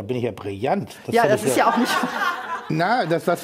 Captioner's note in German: Lachen im Publikum